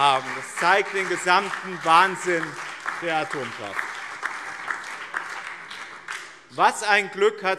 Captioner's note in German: Beifall BÜNDNIS 90/DIE GRÜNEN, vereinzelt SPD und DIE LINKE